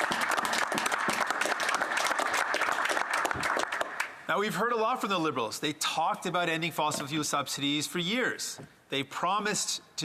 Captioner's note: some Applause